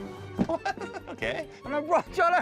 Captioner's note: laughs